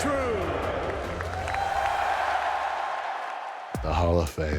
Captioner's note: crowd cheers